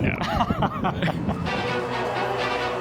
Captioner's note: laughter